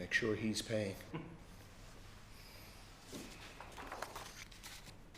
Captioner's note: chuckles